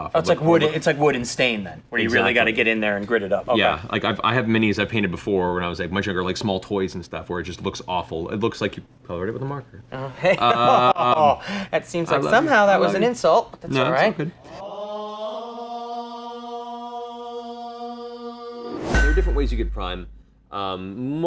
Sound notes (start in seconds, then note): 14.5 gregorian chant; 14.6 clanging iron